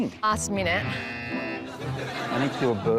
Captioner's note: buzzer